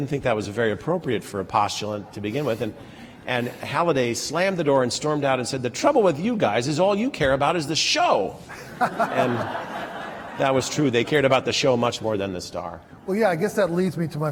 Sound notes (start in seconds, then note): 8.5 laughter